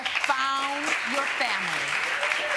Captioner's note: audience applauding